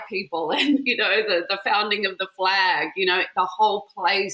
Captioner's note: chuckles